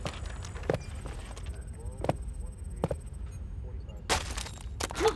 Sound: feet stomping; digital beeping; walkie talkie chattering

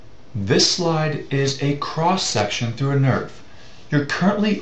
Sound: voiceover

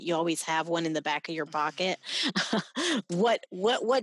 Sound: laughing

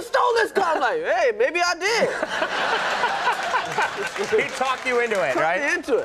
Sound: audience laughs

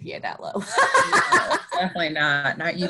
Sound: laughs

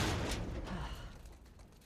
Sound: sigh

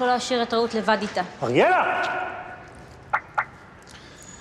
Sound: car alarm beeps

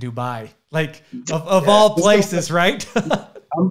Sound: laughs

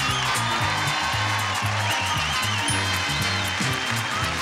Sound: crowd cheering

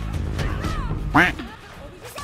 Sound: quack

